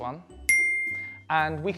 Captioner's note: bell dings